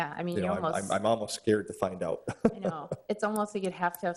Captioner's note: laughs